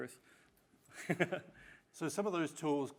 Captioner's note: laughing